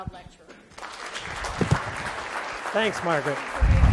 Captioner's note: audience applauding